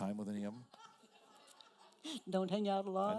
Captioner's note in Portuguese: risos da plateia